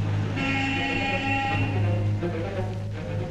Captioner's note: horn